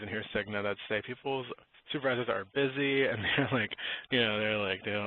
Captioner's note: chuckles